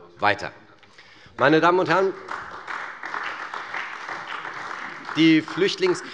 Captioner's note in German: Beifall bei der CDU und dem BÜNDNIS 90/DIE GRÜNEN